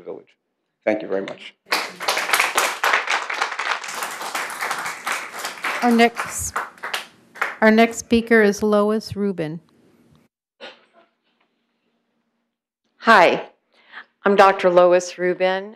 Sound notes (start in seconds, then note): 4.8 applause